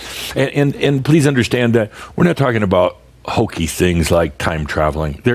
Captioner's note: chuckles